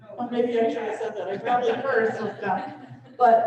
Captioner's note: laughter